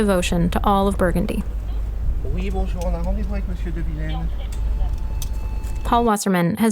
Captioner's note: car sounds as it pulls up to an entrance